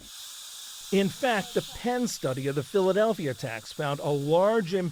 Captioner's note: voice-over